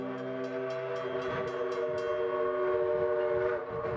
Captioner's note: train whistling